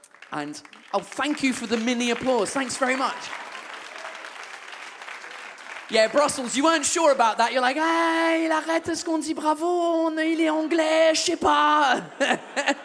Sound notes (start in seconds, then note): 4.1 audience claps